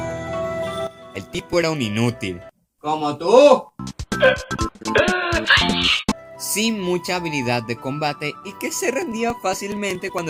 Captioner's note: admin cries